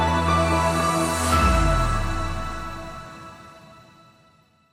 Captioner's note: logo whooshes